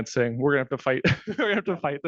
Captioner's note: laughing